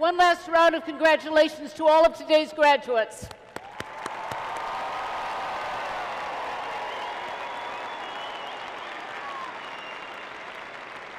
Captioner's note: cheering and Applause